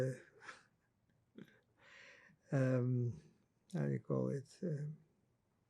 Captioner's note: laughing